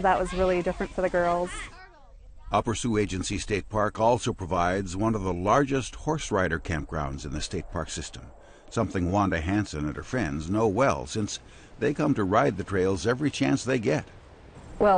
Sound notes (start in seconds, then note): 2.6 voiceover